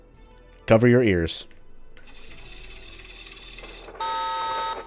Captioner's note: radio cranking